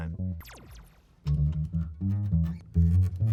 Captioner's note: lasers; bass music